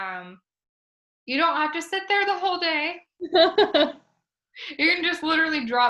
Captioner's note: laughs